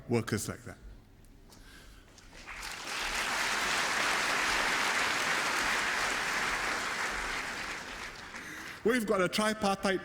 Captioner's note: applause